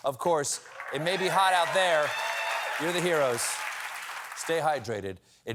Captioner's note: applause